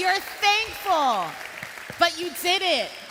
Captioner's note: cheering and Applause